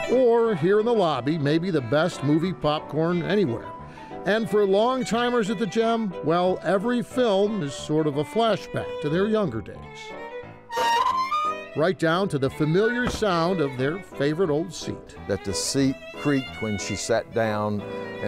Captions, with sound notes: Or here in the lobby may be the best movie popcorn anywhere. And for long timers at the Gem, well, every film is sort of a flashback to their younger days. (seat creaks) Right down to the familiar sound of their favorite old seat. - That the seat creaked when she sat down.